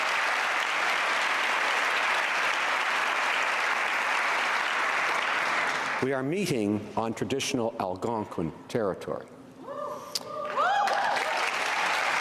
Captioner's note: applause